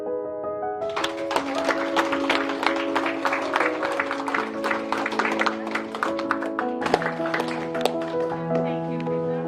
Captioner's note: applause